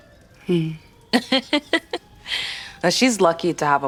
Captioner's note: Bianca chuckles